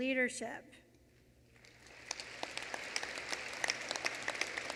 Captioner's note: applause